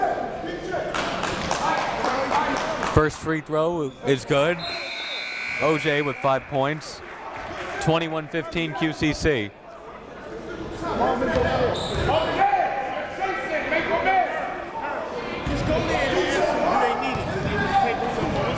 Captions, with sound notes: First free throw is good. (buzzer goes off) O.J. with five points, 21-15, QCC. (crowd talking)